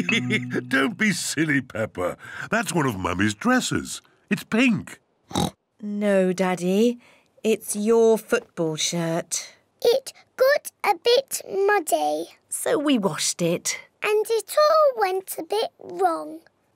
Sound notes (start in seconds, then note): 0.0 laughs; 5.3 oinks